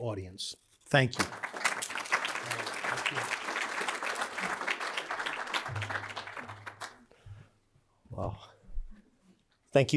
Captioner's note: applause